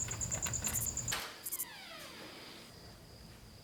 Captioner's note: door creaks